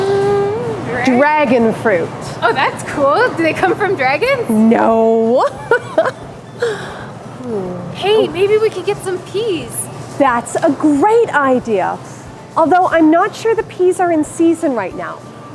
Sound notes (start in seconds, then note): 5.4 she laughs